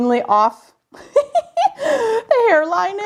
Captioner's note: chuckling